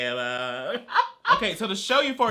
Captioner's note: laughs